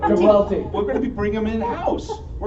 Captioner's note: laughter